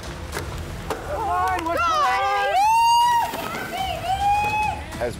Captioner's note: all cheering